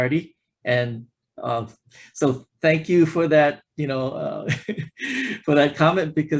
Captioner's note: laughs